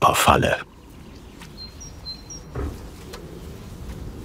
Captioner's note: birds chirping